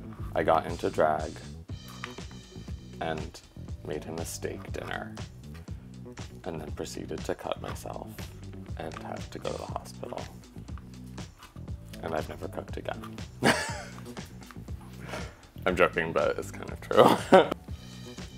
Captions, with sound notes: I got into drag, and made him a steak dinner. And then proceeded to cut myself and have to go to the hospital. And I've never cooked again. (laughs) I'm joking, but it's kind of true.